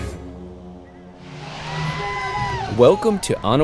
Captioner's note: crowd cheering